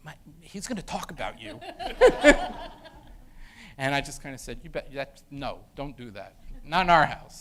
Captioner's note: laughter